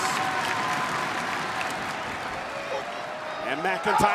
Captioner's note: crowd clapping